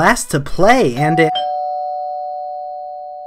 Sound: doorbell rings

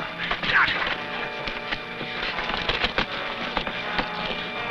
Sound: men grunting

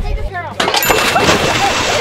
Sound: chime

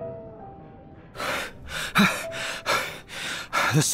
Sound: panting

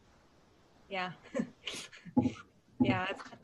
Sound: laughing

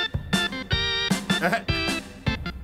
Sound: upbeat music; chuckles

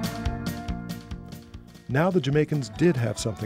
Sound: voiceover

